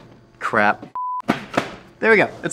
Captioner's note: beep